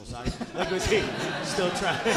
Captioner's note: audience laughing